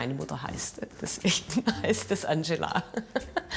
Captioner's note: laughs